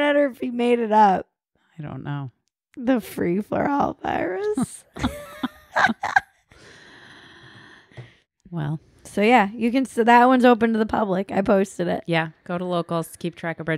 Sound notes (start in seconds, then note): 4.9 laughs loudly